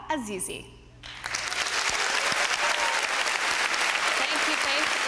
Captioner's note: applause